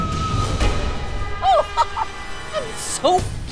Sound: laughing

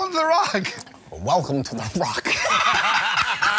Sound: imitates Sean Connery; laughter

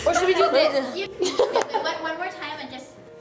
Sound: laughing

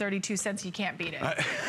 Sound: laughter

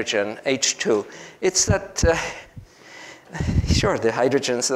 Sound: chuckles

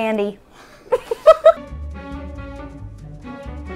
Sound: laughing

